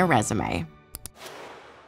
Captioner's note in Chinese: 按下滑鼠按鍵的聲音